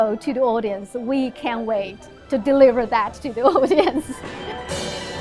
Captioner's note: chuckles; lively music